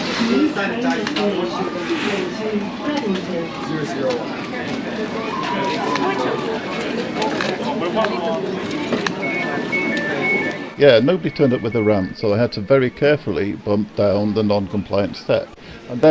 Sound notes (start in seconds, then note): 0.2 crowd chatters; 8.7 door chimes